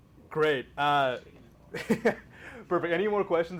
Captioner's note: laughs